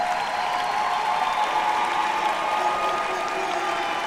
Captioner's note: students cheering